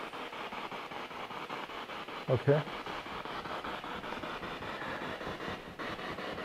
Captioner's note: radio noise from the spirit box